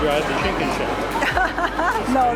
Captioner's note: laughs